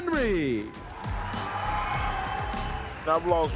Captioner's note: audience cheering